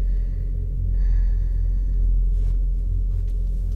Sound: heavy breathing

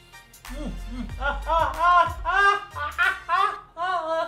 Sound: yelling from burning his mouth

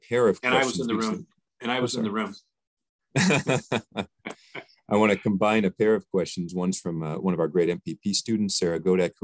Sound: chuckle

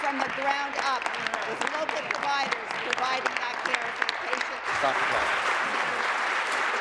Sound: applause

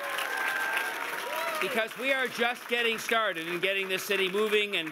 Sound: cheers and Applause

